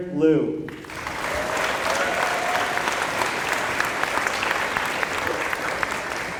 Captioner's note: applause